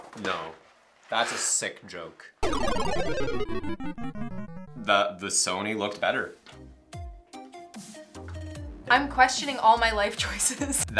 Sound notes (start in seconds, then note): 2.4 beep